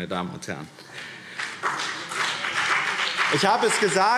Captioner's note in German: Beifall BÜNDNIS 90/DIE GRÜNEN und CDU